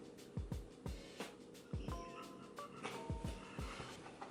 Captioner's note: laughs